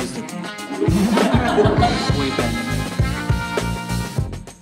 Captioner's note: laughs